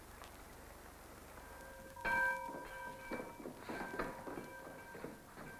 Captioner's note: bells tolling